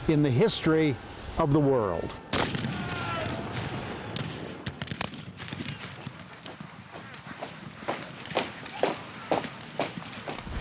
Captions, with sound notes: in the history of the world. (guns firing) (footsteps marching)